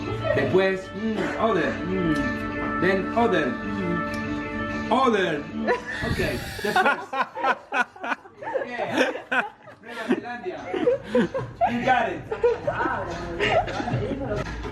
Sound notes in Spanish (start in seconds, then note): 5.7 Jajajajajaja; 5.8 jajajajaja